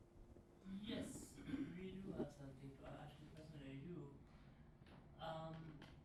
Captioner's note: clears throat